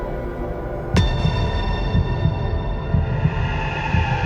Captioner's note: soft musical score; heartbeat thumps; eerie music